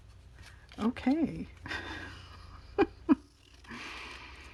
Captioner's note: laughs